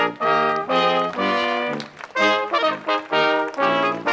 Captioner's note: crowd applauds